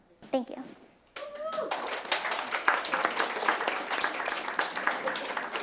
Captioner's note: audience applauding and cheering